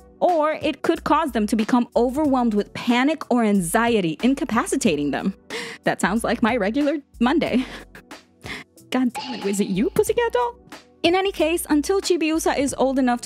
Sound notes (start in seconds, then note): 9.2 beep